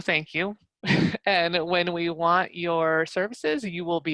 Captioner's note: laugh